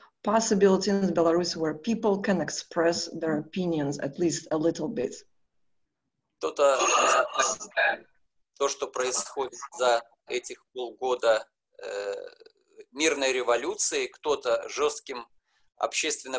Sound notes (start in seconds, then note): 6.7 speaking foreign language